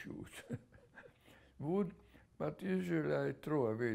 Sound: laughs

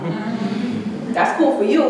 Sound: audience chuckling

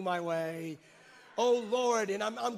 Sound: congregants cheer

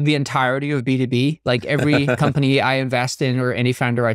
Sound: chuckling

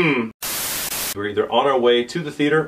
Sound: static

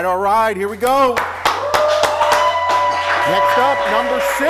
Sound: cheering

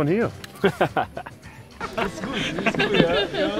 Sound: laughs

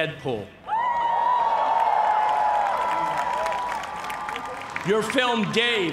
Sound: cheers and applause

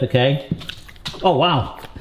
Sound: slurps eagerly

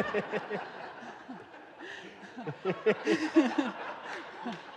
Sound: audience laughing

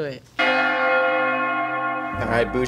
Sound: bells Ringing

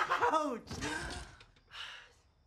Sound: giggling; Luke sighs happily

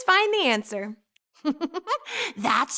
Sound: laughing

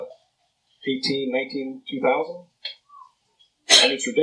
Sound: whistles

